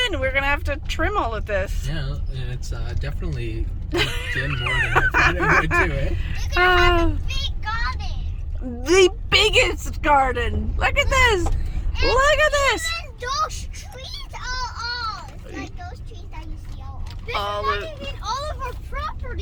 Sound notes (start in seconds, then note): 3.9 laughs; 6.4 children in background; 11.7 children in background